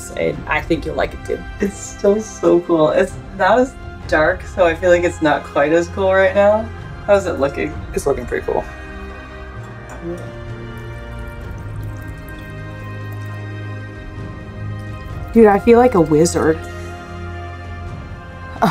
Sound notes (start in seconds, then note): 8.8 background music; 10.2 quiet water sloshing noise; 16.9 background music